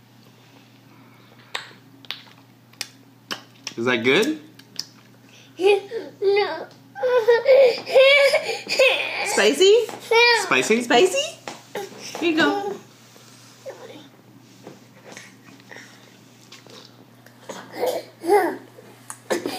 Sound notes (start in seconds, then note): 1.6 lip smacking; 7.0 crying